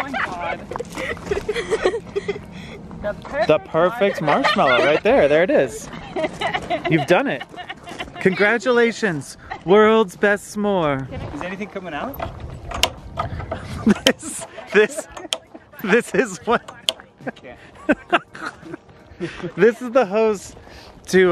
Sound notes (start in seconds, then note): 0.1 kids laughing; 5.9 laughs; 13.4 laughs